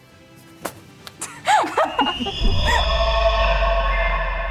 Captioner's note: laughing